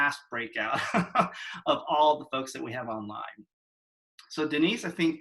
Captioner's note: laugh